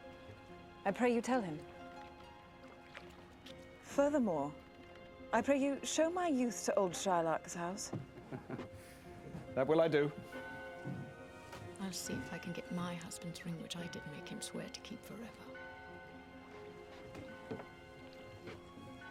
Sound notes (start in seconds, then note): 8.1 chuckles